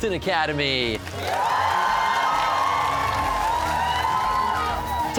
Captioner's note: cheers and applause